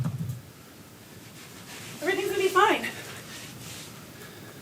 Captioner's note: dancer's feet taps